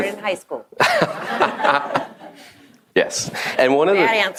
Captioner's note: audience laughs; laughs